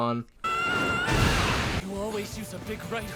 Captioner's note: Izuku screams